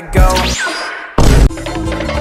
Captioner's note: boom